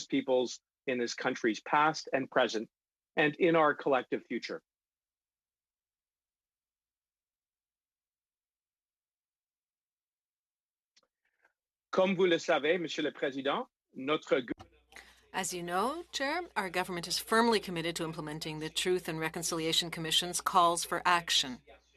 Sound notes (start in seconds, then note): 16.5 speaking French